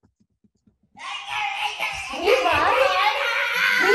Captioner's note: sounds of squealing babbling toddler